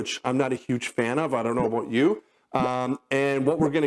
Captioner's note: bubble pops